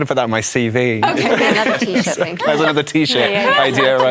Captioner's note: laughter